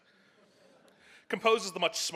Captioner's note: soft audience laughs